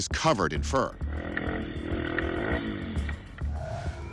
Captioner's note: engine revving